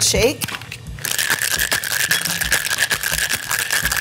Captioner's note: drink sloshing